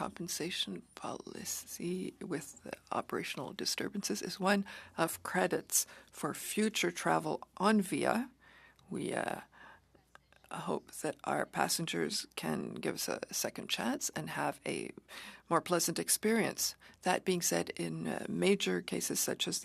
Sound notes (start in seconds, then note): 3.9 speaking French